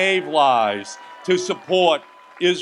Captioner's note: audience applauds and cheers